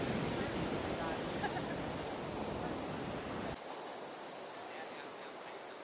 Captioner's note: laughing